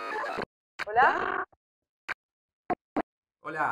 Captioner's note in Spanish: distorsionado